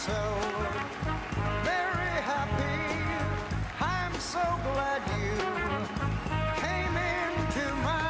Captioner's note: cheering and Applause